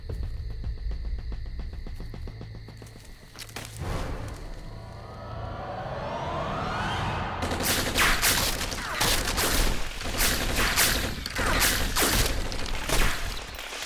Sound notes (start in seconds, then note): 7.4 gunshots